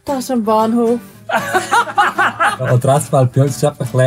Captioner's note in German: Gelächter